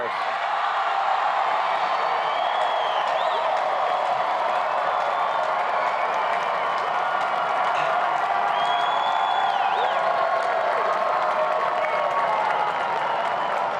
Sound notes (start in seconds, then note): 1.7 cheers and applause